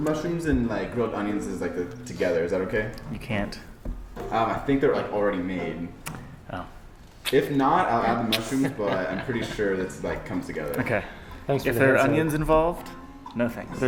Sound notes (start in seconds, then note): 7.2 tisks